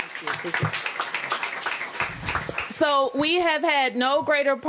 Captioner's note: applause